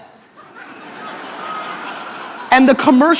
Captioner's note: audience laughter